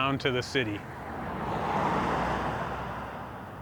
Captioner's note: car driving nearby